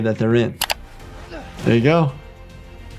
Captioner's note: screen clicking; dramatic music